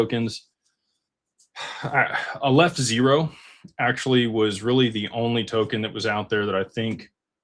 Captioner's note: sighs